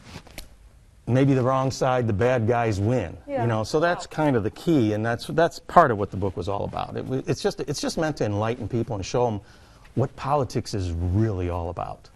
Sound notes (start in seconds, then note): 0.9 fist slapping